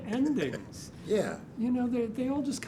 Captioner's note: laughs